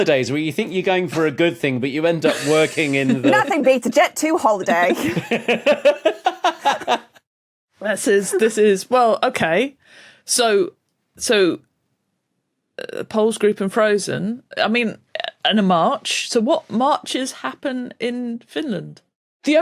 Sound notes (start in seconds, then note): 4.8 laugh